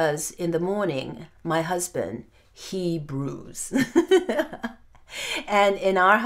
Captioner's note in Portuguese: risos